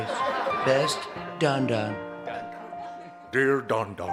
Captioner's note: laughter